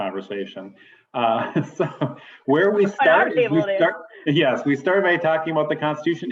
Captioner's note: laughter